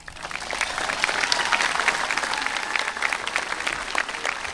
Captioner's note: audience applauding